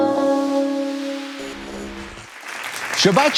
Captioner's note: audience applauding